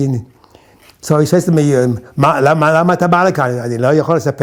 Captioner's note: in Hebrew